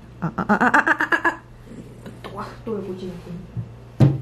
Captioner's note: purring